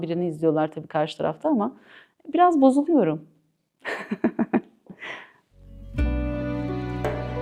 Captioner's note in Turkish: kahkaha